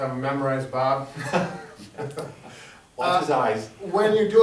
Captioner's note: laughing